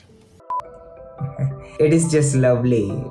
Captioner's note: chuckles